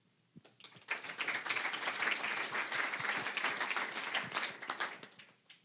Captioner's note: applause